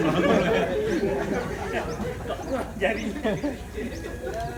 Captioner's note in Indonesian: Jama'ah masih tertawa